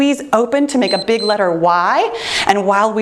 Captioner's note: timer beeps